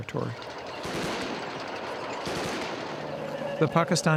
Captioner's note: gunfire